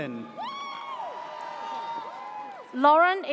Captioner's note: audience cheers